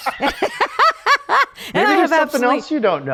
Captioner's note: both laughing